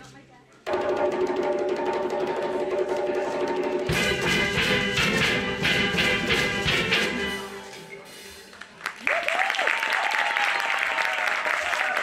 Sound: applause

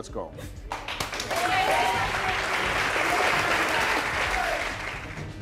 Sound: audience applauds

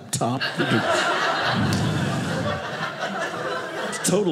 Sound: audience laughing

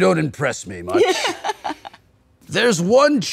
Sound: laughing

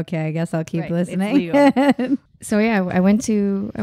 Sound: laughing

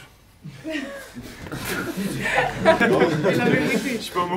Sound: laughs

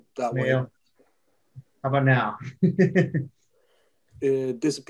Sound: laughs

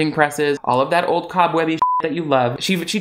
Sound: beep

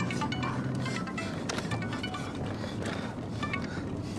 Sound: cell phone ringing

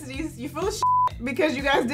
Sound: beep

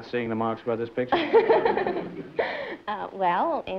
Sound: laughter

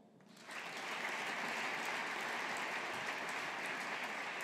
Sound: audience applauding

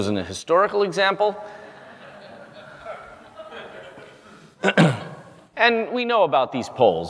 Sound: cough; laugh

